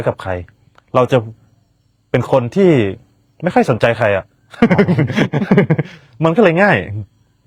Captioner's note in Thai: เสียงหัวเราะ